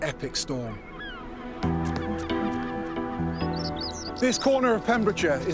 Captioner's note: gulls squawking